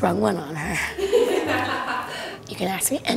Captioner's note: group laughs; laughs